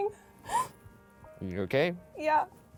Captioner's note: sobbing